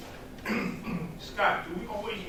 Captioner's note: clears throat